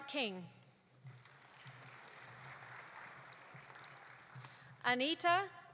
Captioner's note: audience applauding